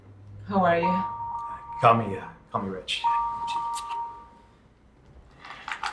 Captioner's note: phone ringing